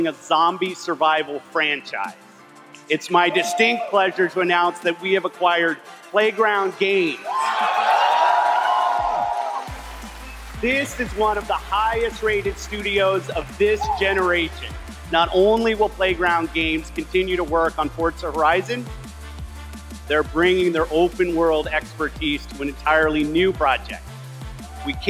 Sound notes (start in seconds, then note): 7.2 audience cheers